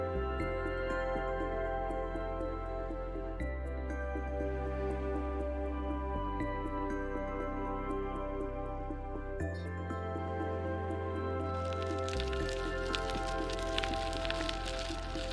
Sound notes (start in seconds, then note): 11.5 tires crunching